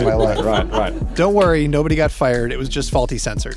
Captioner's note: group laughs